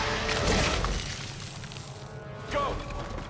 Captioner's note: liquid splashes